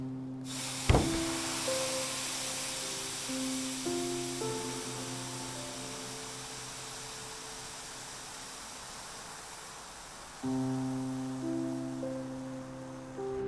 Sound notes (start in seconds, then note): 0.9 hands thudding; 1.0 steam hissing; 10.4 gentle music